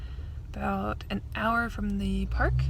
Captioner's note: none